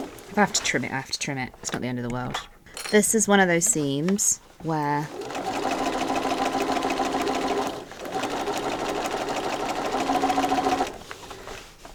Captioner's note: sewing continues; sewing